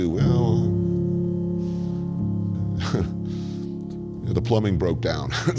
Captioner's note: chuckles